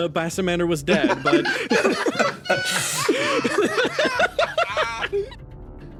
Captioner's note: everyone Laughs